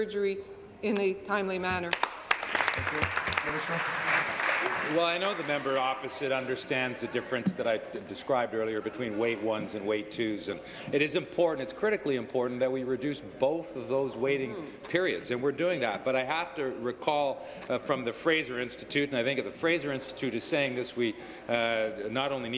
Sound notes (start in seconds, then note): 6.3 applause